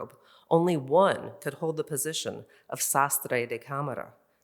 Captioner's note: in Spanish